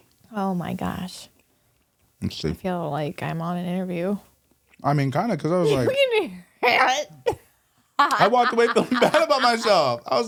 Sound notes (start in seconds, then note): 8.0 laughing